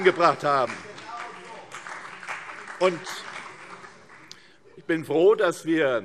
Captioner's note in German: Vereinzelter Beifall CDU